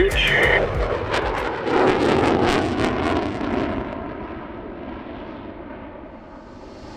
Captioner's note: robust music; aircraft humming